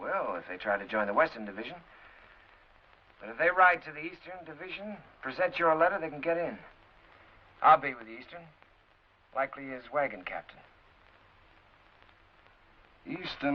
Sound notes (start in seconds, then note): none